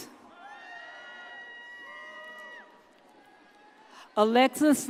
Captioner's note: audience cheers